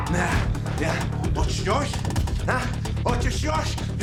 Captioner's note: speaking serbian